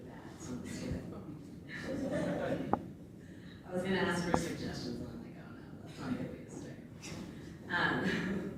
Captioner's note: laughs